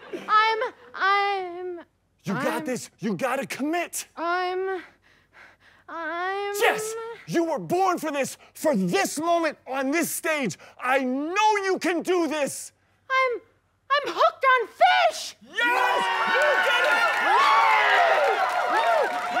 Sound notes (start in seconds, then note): 5.2 hyperventilating; 15.5 cheering; 17.5 celebrating